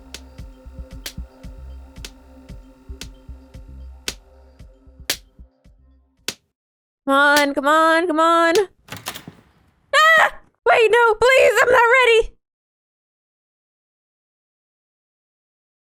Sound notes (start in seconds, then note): 9.9 screams